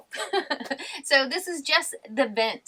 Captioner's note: laughs